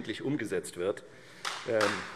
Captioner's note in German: Beifall Freie Demokraten